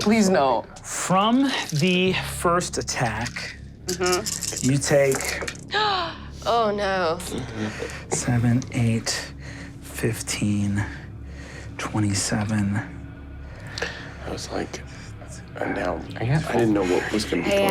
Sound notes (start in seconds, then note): 7.2 sighs